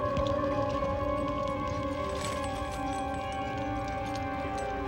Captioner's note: flames crackling